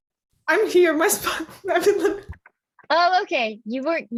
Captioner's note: laughing